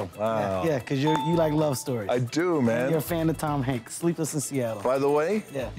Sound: none

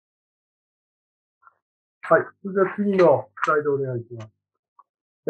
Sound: speaking japanese

